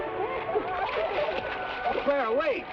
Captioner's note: water splashes